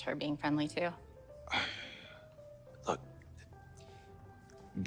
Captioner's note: sighing